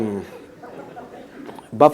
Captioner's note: laughter